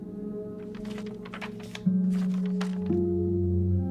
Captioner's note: paper rustles